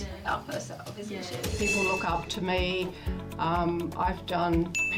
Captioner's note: bell dings